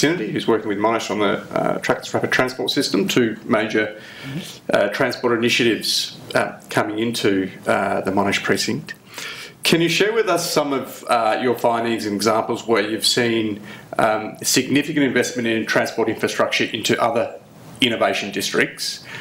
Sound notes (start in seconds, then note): none